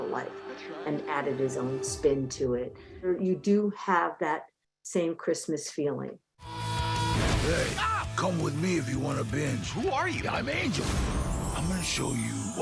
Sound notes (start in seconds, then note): 7.7 screaming